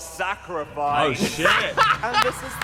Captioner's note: laughing